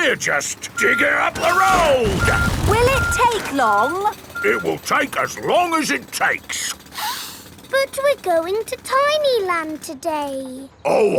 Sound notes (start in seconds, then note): 7.0 sniffs